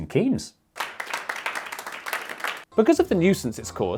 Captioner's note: applause